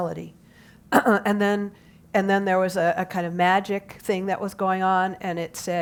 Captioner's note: cough